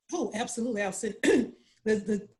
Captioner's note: clearing throat